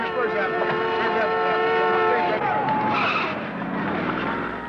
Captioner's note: sirens blaring